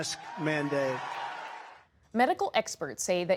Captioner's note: cheering and applause